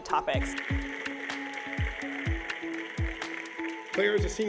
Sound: audience applauding

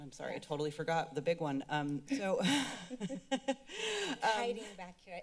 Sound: laughs

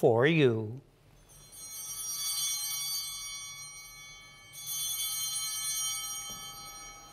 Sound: chimes ringing

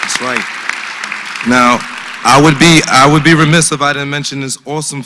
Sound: applause

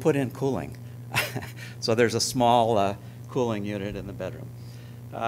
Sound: chuckling

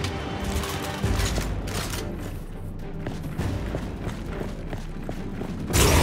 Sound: footsteps; gunshots

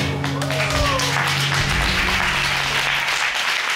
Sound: audience applauding

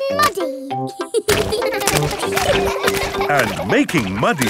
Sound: children laughing

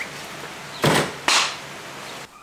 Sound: clap

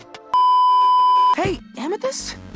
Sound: beeeeeep

